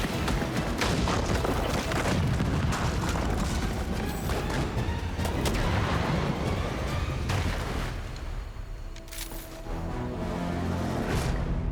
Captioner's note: gunfire